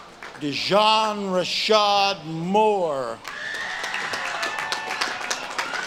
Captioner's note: audience claps and cheers